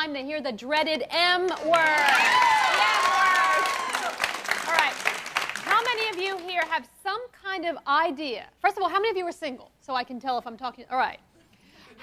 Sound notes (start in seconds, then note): 1.6 cheering and applause